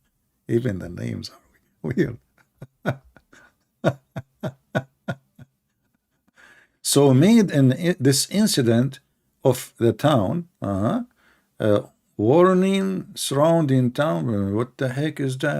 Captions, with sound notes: walaupun nama pelik [Ketawa] jadi dalam kejadian Pekan ini amaran mengelilingi Bandar apa sebenarnya